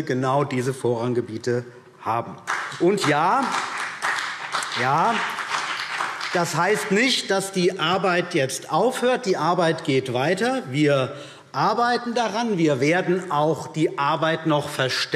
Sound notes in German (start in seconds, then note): 2.4 Beifall BÜNDNIS 90/DIE GRÜNEN und vereinzelt CDU